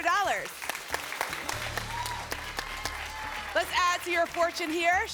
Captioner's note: applause